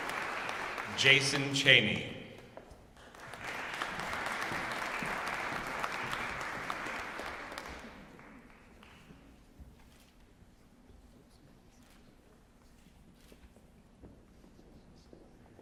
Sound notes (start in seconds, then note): 0.0 applause; 2.9 applause